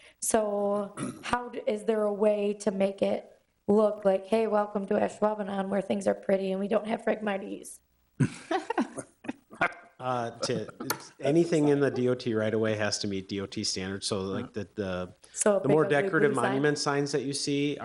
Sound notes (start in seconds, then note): 8.4 people laughing